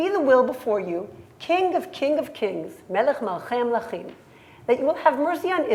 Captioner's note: hebrew